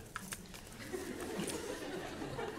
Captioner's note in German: Kichern